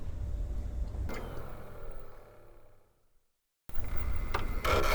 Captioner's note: device whirs; device whistle; device whirs